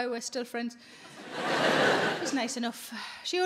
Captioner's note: audience laughing